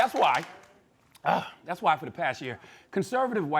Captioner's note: clears throat